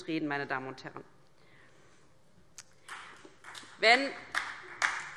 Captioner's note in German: Beifall DIE LINKE und vereinzelt SPD